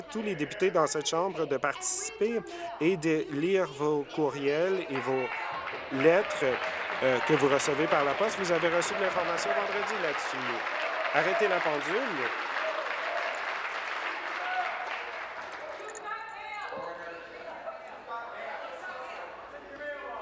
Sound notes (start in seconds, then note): 9.2 applause